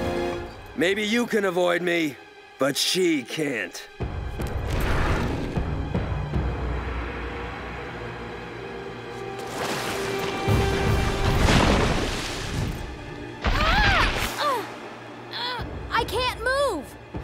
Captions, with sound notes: Maybe you can avoid me, but she can't. [screaming] Uh. I can't move!